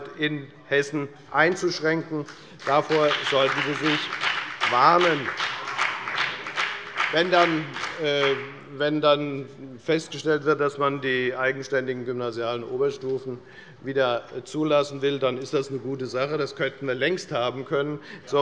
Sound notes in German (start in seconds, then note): 5.4 Beifall bei der FDP